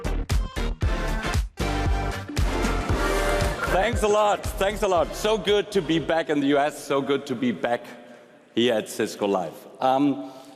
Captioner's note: applause